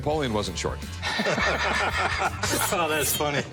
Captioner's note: laughter